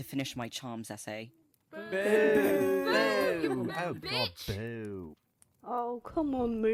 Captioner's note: chorus of boos